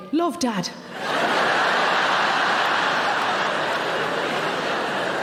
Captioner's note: audience laughing